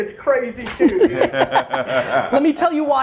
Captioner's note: group laughter